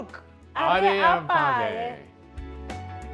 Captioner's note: both speak foreign language; upbeat music